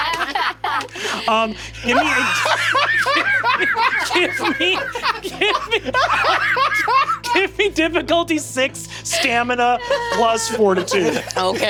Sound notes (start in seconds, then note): 0.0 players laughing; 2.8 Lou guffawing; 5.3 laughs; 6.0 Lou cackling